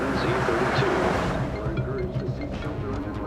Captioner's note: cell phone ringing